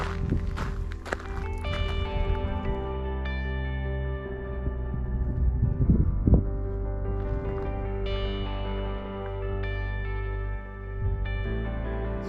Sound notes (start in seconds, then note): 6.9 wind blowing